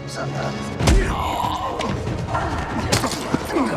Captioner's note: grunting; intense music